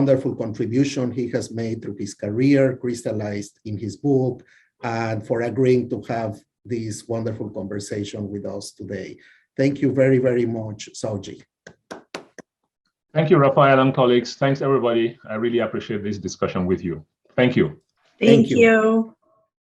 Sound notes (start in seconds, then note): 11.6 speaker clapping